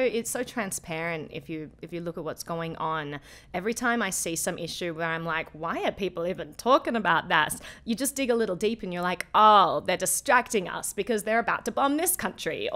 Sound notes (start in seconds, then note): none